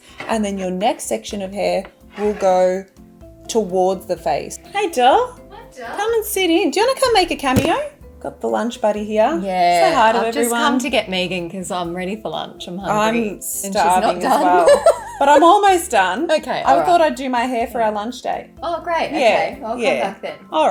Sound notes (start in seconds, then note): 14.4 laughing